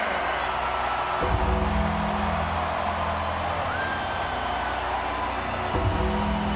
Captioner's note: crowd cheers; gong ringing